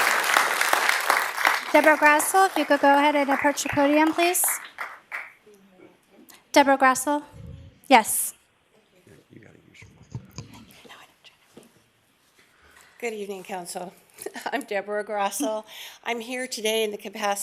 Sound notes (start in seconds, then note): 4.2 applause